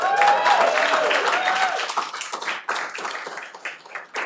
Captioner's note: cheering